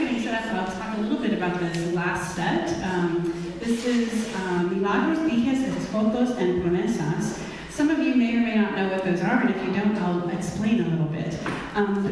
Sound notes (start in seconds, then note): 4.2 speaking in foreign language